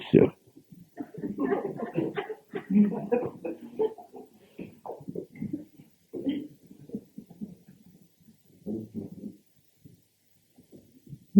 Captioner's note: general laughter